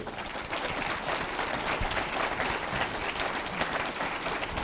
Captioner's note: applause